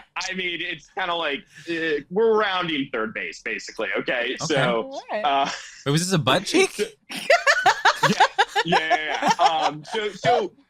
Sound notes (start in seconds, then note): 3.8 group laughing